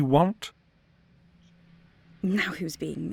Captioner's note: a beat